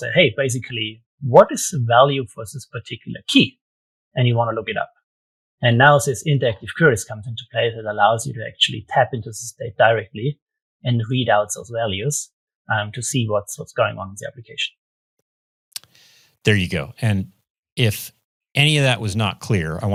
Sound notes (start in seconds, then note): none